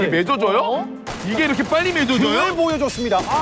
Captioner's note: firing shots